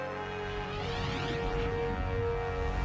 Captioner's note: whoosh!